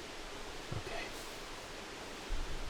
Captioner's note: whispering